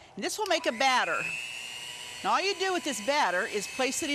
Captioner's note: mixer whirring